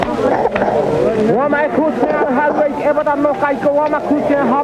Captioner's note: non-english speech